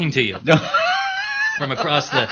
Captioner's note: laughter